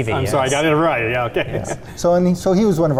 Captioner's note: laughing